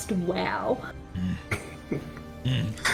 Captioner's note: touched chuckle